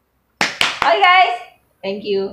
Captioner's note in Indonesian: clap hands